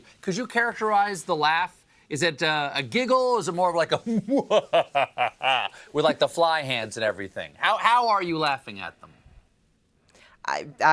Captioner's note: maniacal laugh